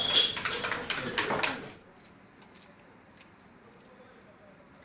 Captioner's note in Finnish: Aplodeja